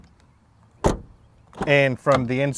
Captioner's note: car door closing